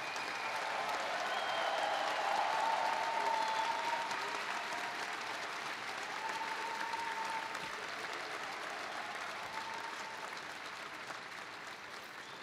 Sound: applause

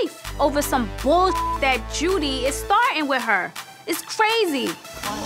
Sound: beep

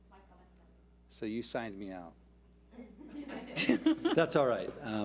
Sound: board laughs

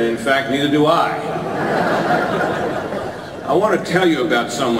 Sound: audience laughter

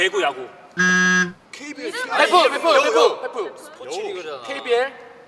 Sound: suffocating

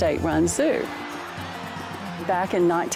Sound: crowd cheering

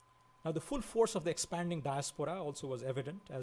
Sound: foreign language

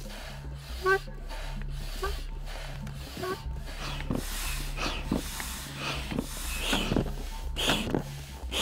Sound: pump squeaking

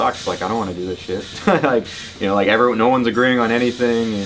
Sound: laughs

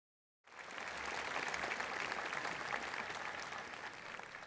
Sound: audience applauds

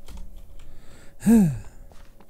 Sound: sighs

